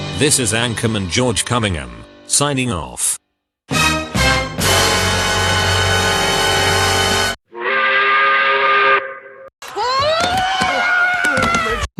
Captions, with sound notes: This is Anchorman George Cummingham signing off. (dramatic music sting) (angry work whistle) (screaming angrily)